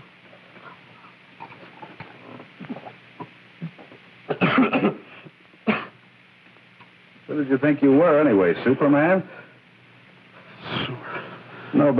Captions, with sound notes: [coughing] Who did you think you were anyway, Superman? Super... Nobody's ever been able to walk across that desert